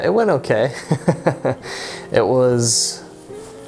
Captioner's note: laughing